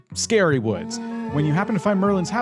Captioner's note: creature groaning